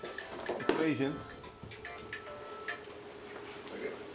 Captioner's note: phone ringtone